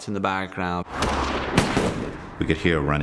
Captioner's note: gunshots